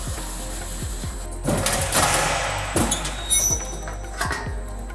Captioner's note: machine whirs